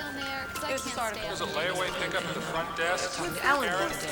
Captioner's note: man on P.A